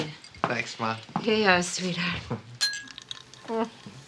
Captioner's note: glasses clink